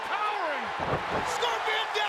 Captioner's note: crowd cheering